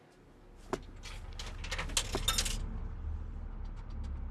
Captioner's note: change falling in payphone